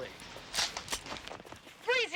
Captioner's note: gun cocking